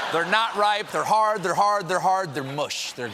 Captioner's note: laughter